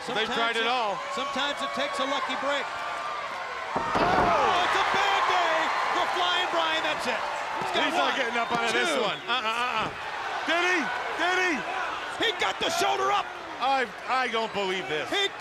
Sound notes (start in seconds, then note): 3.3 crowd cheering